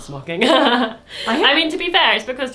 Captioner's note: laughing